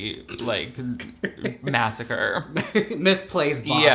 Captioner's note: laughs